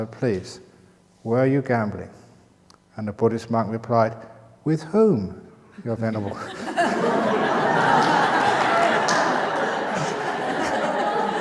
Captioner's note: laughter